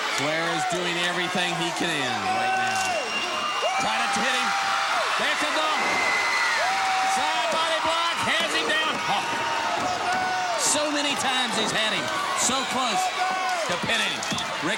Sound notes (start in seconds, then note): 8.6 body thudding